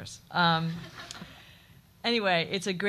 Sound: audience chuckling

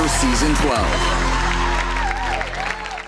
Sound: crowd cheering

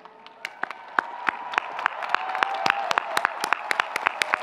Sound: audience clapping

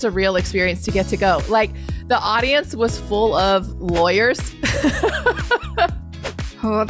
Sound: laughs

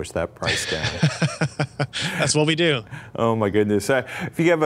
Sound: laugh

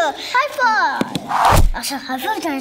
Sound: high-five whooshes

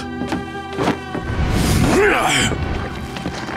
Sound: grunting

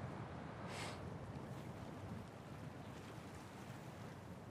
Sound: wind blowing

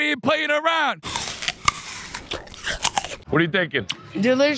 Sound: apples crunching

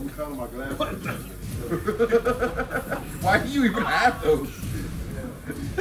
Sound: laugh

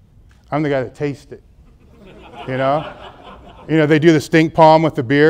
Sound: audience laughs

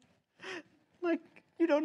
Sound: le gasp

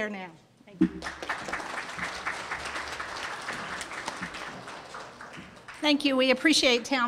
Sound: audience applauds

